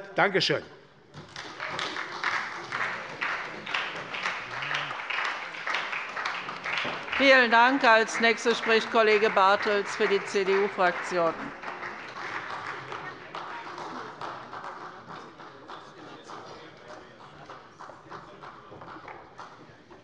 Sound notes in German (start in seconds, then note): 1.9 Beifall bei der SPD